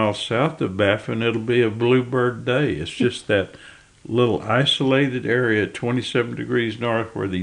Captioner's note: laughs